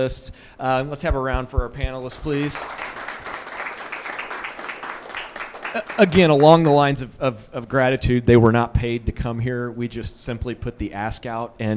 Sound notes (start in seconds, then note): 2.0 attendees applauding